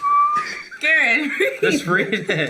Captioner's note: knocking; whistling